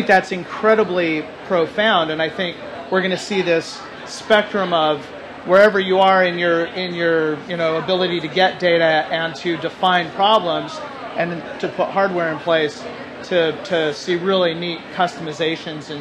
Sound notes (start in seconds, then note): none